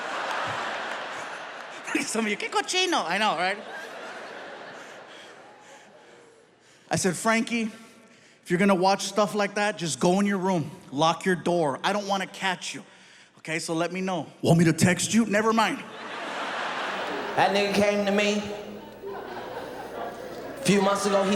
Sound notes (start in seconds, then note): 0.0 audience laughing; 2.3 speaks in foreign language; 4.0 audience laughing; 15.8 audience laughing